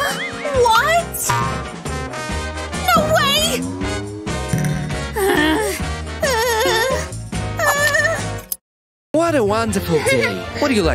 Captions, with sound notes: *grumbles* What!? No way! *groans* What a wonderful day!